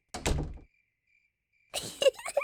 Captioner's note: door closes; giggles